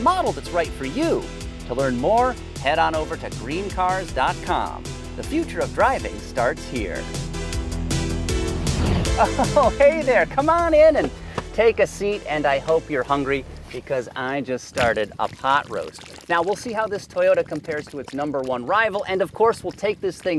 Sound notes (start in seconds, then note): 7.4 upbeat music; 8.7 chuckles